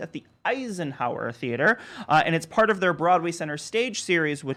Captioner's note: none